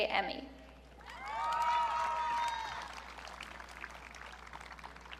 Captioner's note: audience cheering